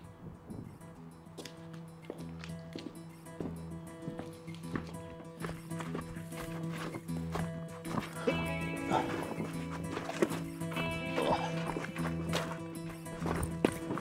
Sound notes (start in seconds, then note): 0.2 solemn music; 8.0 Christian grunting